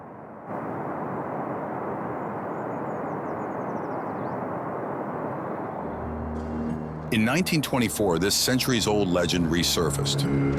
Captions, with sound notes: (birds chirping) In 1924, this century's old legend resurfaced.